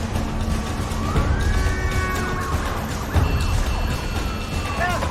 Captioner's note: siren wailing, horns honking